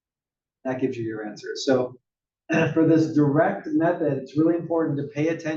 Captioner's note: cough